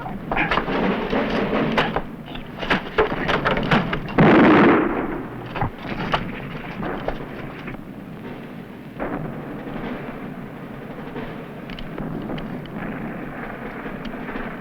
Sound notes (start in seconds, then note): 4.1 gunshot